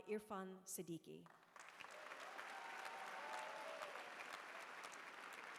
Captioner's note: applause